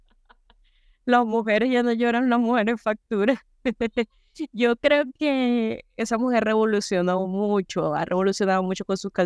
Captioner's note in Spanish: risas